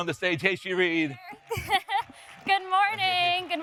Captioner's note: laughs